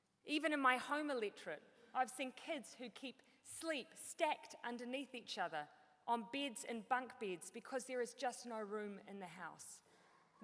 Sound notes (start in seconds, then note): none